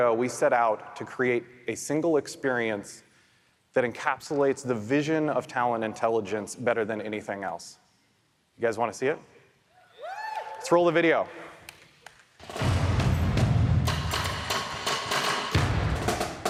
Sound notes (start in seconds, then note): 10.8 audience applauds; 13.8 music beat